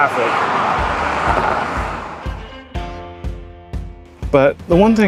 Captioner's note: traffic fades; upbeat music returns